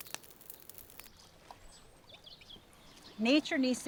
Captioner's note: wildlife chittering